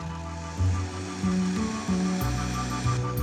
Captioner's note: whirring